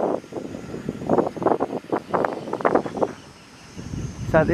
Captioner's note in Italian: il vento ululò